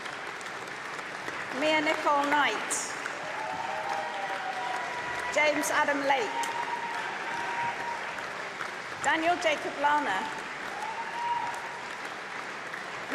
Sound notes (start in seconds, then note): 0.0 applause; 4.0 cheering